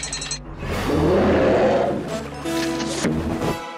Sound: roars

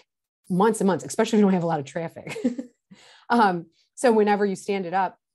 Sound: chuckles

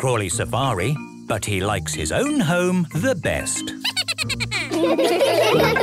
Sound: Steven giggles

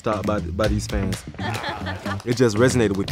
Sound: person laughs

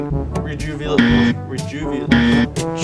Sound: incorrect buzzer

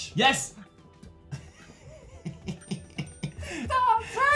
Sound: beautiful chuckle

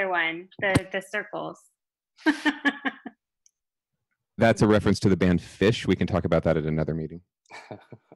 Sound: laughter

